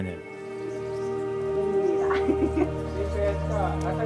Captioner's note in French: quelques rires